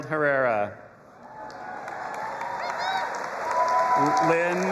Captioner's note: audience applauding and cheering